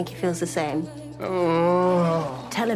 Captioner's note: groans